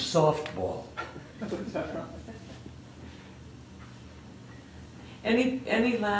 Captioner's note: laughter